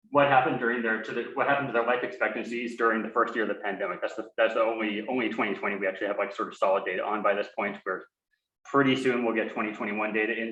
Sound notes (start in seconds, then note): none